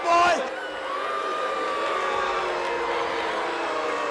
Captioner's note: crowd boos